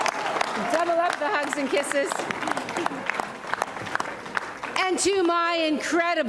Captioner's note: applause and cheering